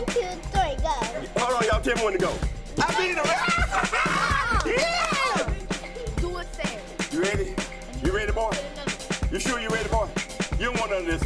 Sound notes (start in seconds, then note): 2.7 laughs; 6.4 kid jabbers